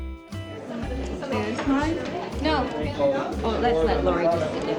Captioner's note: family murmuring